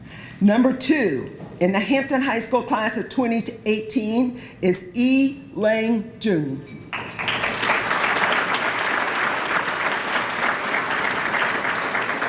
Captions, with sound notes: Number two in the Hampton High School class of 2018 is I Lang Jung. (applause)